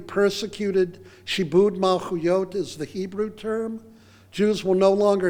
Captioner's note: foreign phrase